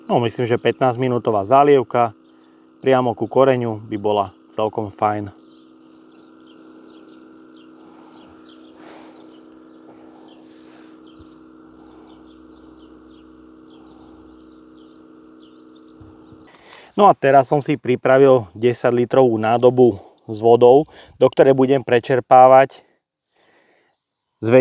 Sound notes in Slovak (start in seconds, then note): 8.7 smrkanie